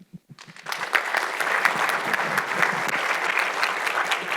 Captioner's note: audience clapping